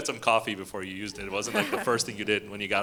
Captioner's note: chuckles